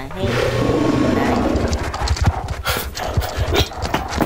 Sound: Mom scorpion roars

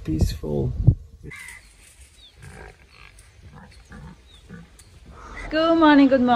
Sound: animal and nature sounds

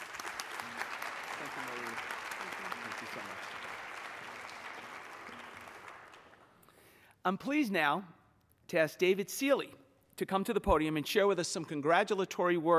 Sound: applause

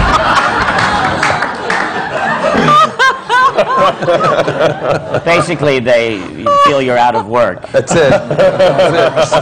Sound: laughter

